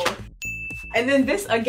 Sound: chime dings

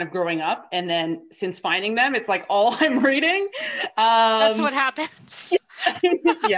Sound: laughter

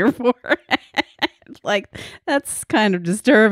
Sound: laughs loudly

